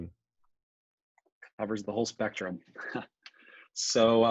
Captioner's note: chuckles